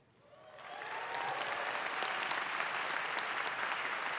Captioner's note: audience claps